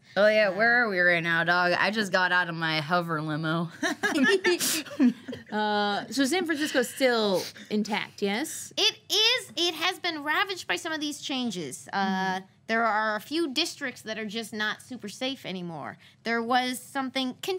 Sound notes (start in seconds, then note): 3.9 laughing